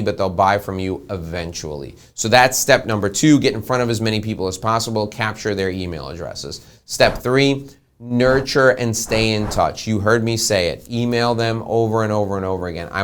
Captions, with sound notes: but they'll buy from you eventually. So that's step number two. Get in front of as many people as possible. Capture their email addresses. Step three, (whooshing) nurture and stay in touch. You heard me say it, email them over, and over, and over again.